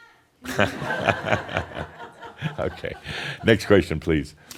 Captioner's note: shouts again from the kitchen; more laughter